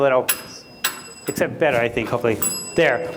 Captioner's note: dings bell